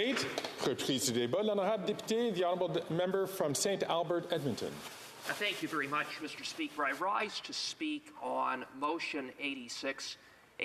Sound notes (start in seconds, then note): 6.2 speaking French